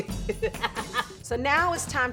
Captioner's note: laughing